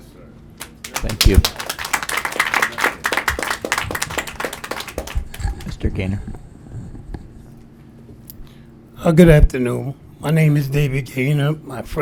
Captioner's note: applause